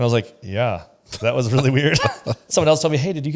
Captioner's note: laughs